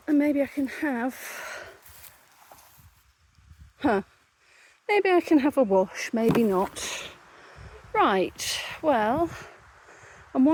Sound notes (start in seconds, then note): 7.0 irritated sigh